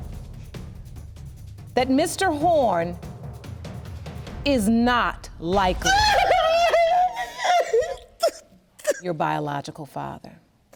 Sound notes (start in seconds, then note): 5.7 crying